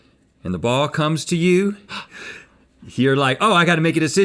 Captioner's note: gasping